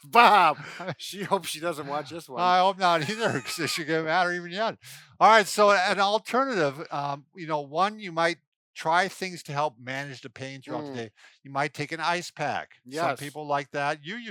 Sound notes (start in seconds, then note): 4.7 murmurs